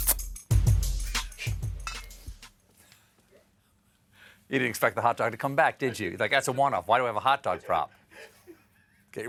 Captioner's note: laughter